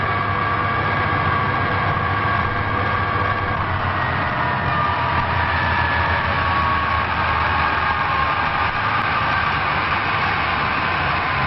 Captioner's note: applause